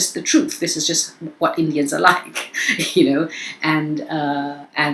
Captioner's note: chuckles